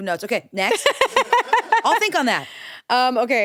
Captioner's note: crew laugh